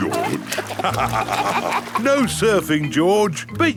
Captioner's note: both laugh